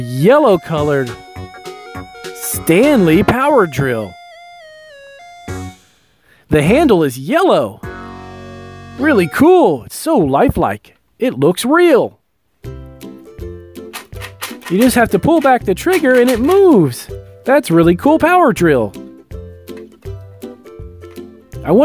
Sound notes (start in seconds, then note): 12.8 light music; 13.9 drill rattling; 19.6 light music